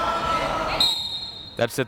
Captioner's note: crowd members talking; whistle tweeting